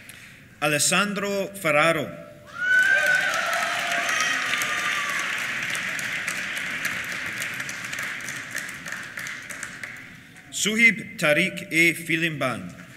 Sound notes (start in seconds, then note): 2.5 cheers; 2.8 applause